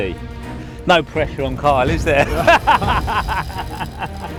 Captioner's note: laughing